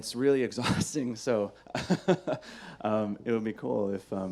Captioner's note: laughs